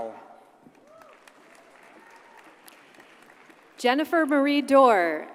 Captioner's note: audience applauds